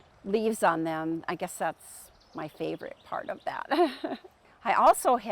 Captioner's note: chuckles